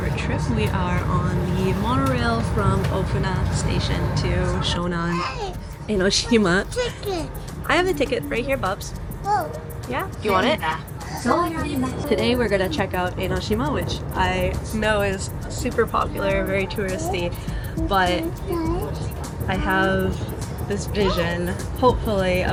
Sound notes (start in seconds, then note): 6.0 laughing